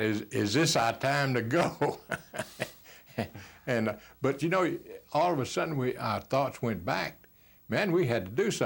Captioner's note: laughs